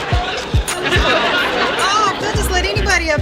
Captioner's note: audience laughs